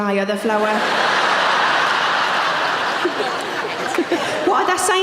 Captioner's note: audience laughing